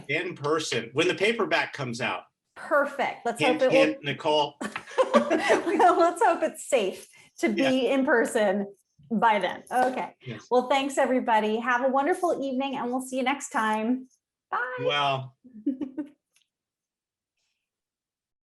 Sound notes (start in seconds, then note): 4.7 chuckling; 15.6 chuckling